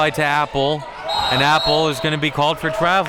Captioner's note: whistle blows